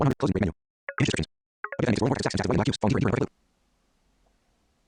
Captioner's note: extremely fast speaking